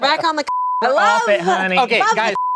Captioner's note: beep